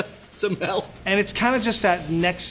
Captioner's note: laughs